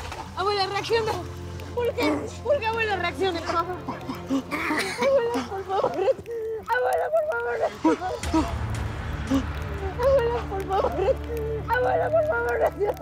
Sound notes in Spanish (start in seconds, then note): 3.2 Sollozos